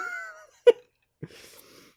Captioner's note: mini-chuckle